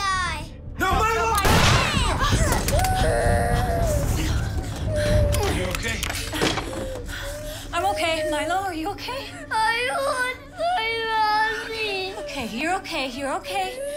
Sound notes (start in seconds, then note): 2.7 crying; 6.0 breathing heavily